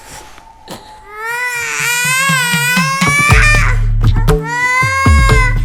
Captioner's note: Appoose begins crying